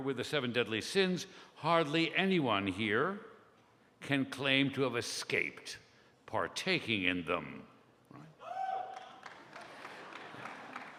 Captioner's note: scattered applause, laughter